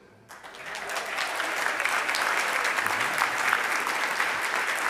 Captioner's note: audience applauds